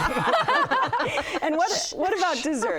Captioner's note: laughing